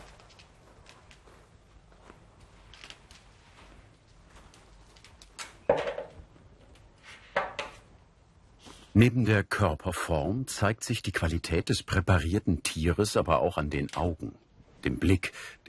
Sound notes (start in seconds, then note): 5.6 quiet rattling